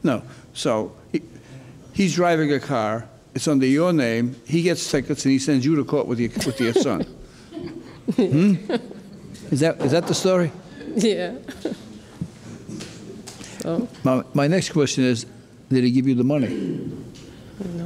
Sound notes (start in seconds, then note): 6.3 laughing